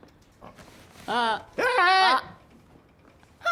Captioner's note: grunting